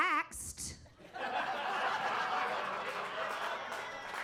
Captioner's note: audience laughs